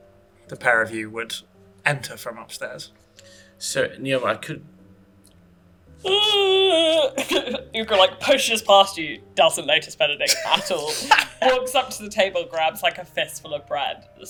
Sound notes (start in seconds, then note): 6.0 yawning